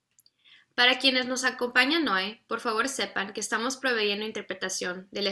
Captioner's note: speaks in foreign language